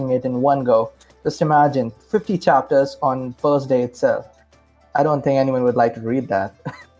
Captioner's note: laugh